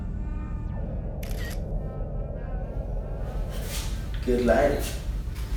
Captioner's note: camera snaps